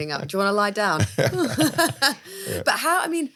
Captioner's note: laugh